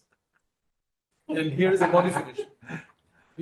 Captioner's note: laughs